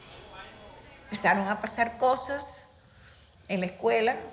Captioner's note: speaking in Spanish